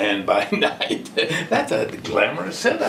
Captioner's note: laughing